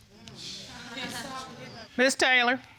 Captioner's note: audience scoffing